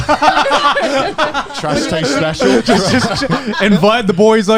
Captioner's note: laughing